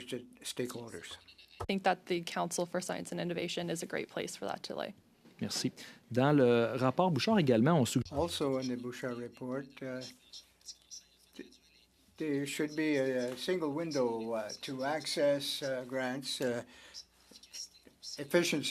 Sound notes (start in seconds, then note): 12.2 speaking French